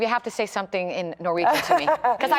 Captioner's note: laughter